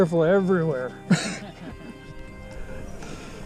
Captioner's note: laughing